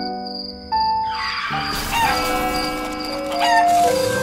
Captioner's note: tire squealing, crash